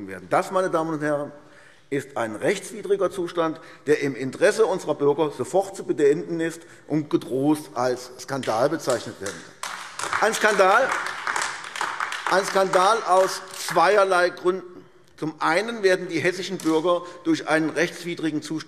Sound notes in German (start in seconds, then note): 10.5 Beifall AfD